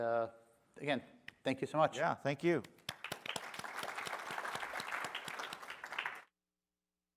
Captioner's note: applause